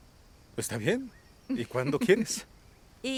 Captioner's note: Esperanza ríe